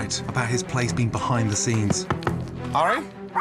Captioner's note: Gordon knocking